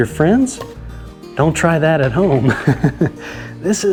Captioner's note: laughs